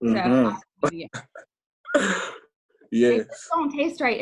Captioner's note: laughs